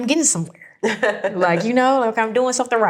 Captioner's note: laughing